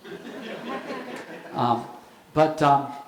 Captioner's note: audience laughing